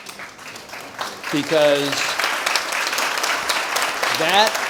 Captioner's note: audience applauds